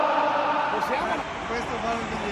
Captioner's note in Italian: Applauso